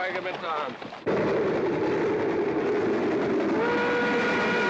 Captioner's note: train rumbling; train whistle blaring